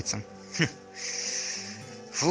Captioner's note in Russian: Смешок